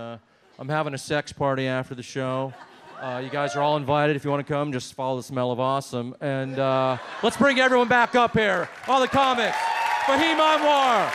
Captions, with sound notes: And I'm having a sex party after the show. (audience hoots) You guys are all invited. If you wanna come, just follow the smell of awesome. here. Lep All the comics, (audience applauds and cheers)